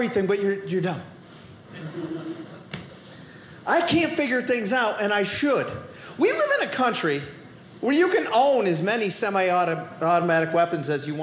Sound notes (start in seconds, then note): 1.7 audience laughing